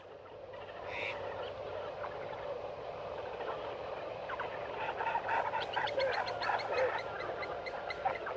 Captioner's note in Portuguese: sons de pássaros